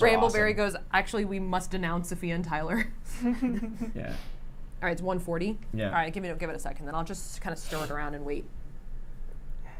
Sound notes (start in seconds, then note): 3.1 giggles